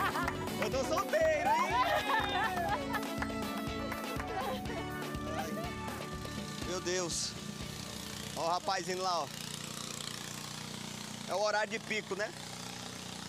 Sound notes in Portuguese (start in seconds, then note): 1.0 continua rindo; 9.7 motor crepitando